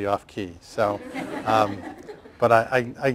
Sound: laughter

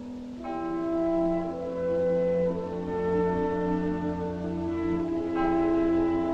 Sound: bell Tolling

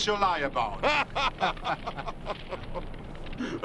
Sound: laughing

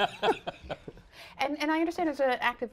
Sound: laughter

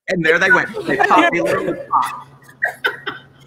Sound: laughing

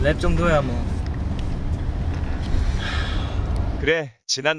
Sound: rapper exit followed by deep sigh

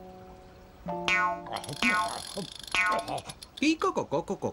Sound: fishing rod boinging

